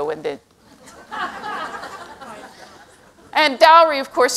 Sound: laughter

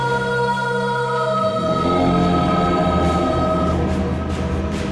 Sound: dramatic groaning

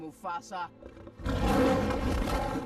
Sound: roars

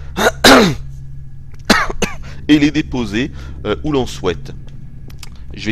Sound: cough

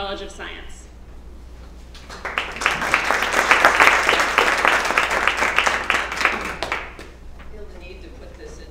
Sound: applause

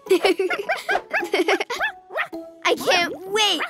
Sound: Sparky barking

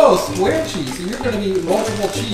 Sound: voiceover

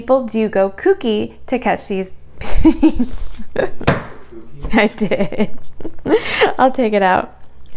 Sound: laughs out loud

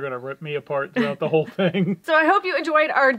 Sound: laugh

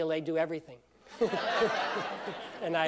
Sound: laughter

